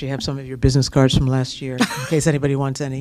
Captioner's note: laughter